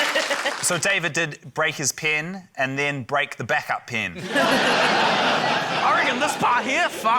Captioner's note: laughter